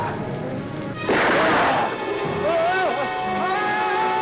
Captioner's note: gun firing